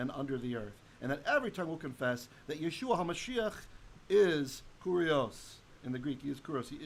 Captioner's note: Hebrew